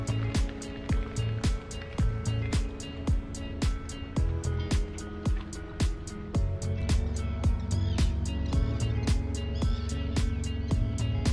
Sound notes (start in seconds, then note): 0.0 birds wings flapping on the water; 4.4 birds screeching